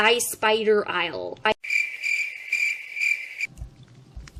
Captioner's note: crickets